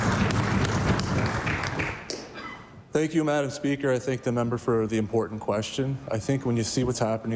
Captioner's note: applause